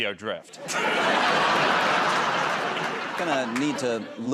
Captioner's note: laughter